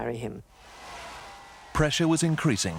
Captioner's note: audience cheering